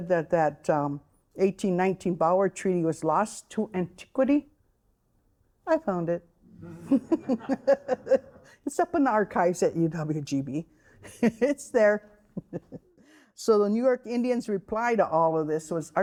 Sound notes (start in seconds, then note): 6.6 all laughing; 12.3 laughing